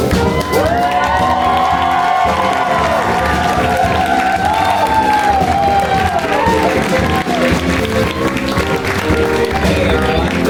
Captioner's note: applause